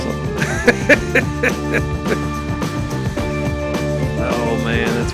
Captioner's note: laughing